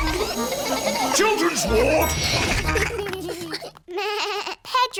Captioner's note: elevator bell dings; bleats